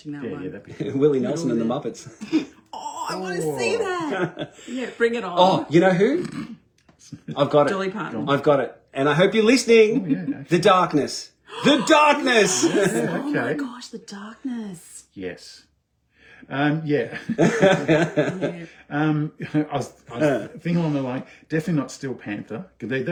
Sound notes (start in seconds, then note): 5.1 snort-laughs; 11.4 gasps of surprise